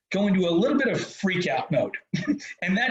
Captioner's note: chuckles